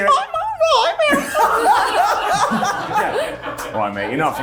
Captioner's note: cast laughing